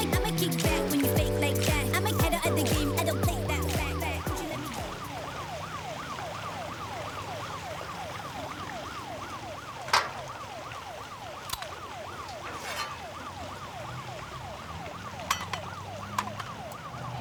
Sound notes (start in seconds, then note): 4.1 sirens wail; 9.8 metal clanks